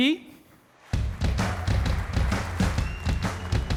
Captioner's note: applause